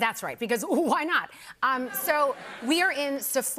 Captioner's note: laughter